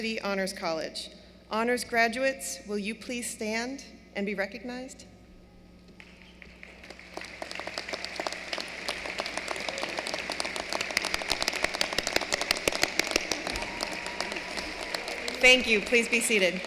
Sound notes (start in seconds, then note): 6.0 applause